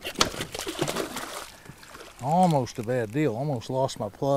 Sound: fish splashing

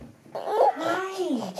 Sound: baby coos

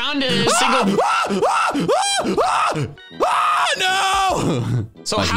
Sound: screaming

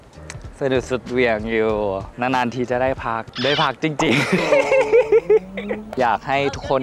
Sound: laugh

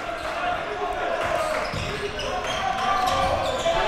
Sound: crowd cheering

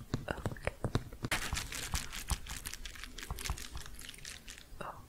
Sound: rhythmic crinkling

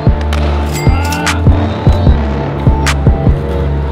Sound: cha-ching

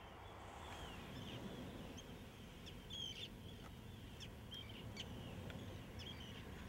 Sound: birds chirping

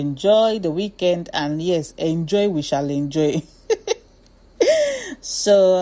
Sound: laughs

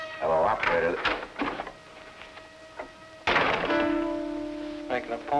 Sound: door rattles and slams

